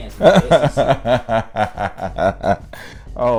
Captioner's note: laughing